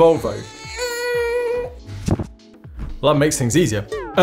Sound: crying

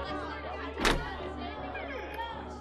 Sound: door opening sound

